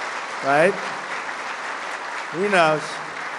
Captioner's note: applause